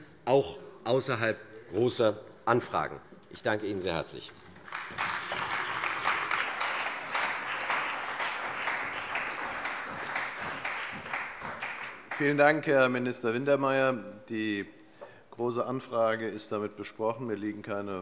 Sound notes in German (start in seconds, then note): 4.5 Beifall bei der CDU und dem BÜNDNIS 90/DIE GRÜNEN